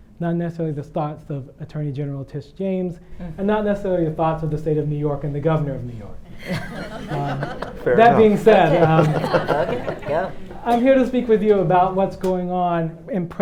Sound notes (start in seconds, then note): 6.7 audience clapping; 9.2 panel and audience laughing